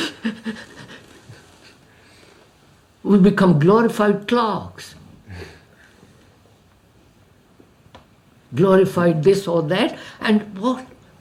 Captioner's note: laughs